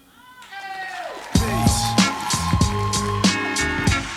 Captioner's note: crowd cheers and applauds